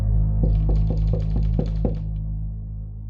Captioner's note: light knocking